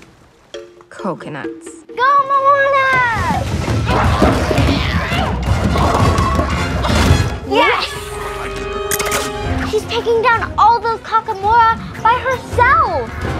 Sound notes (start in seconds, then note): 3.4 coconuts clattering